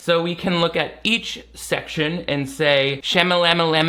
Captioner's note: none